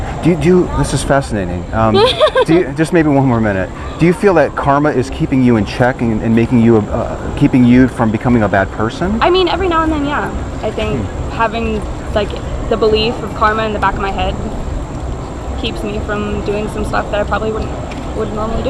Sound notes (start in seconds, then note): 1.7 laughing